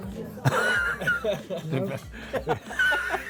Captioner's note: laughing